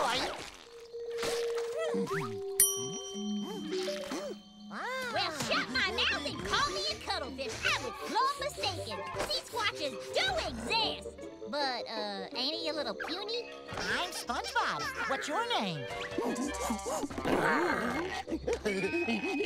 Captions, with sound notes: Well, shut my mouth and call me a cuttlefish, I was sorely mistaken. A sea squatch is doing this! But, uh, ain't he a little puny? I'm SpongeBob, what's your name? [hooting] [growling] [giggling]